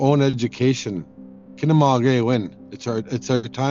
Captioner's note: speaking in foreign language